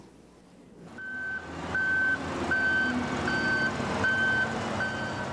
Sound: crane beeping

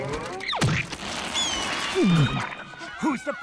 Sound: bird shrieking

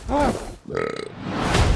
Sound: burps

